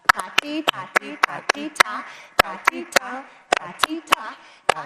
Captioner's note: clapping to the rhythm